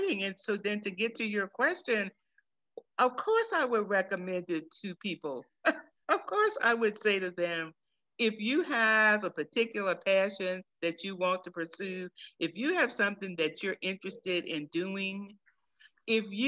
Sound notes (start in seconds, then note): 5.8 chuckles